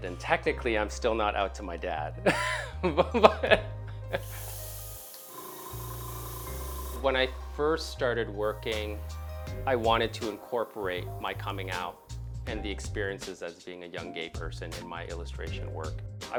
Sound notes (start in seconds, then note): 2.2 laughter